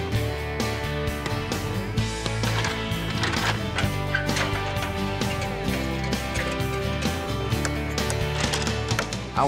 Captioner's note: hammering